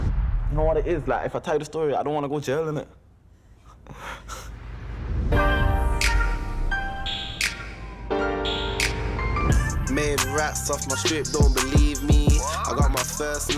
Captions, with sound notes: - Know what it is? If I tell you the story, I don't want to go to jail, innit? (laughing) (distant siren wailing) (rap music)